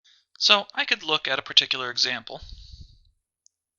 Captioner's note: voiceover